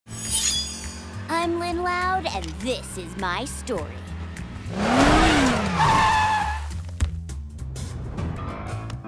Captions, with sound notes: I'm Lynn Loud, and this is my story. [tires screeching]